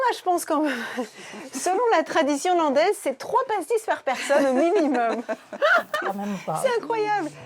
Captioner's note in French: rires